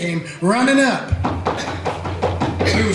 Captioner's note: running footsteps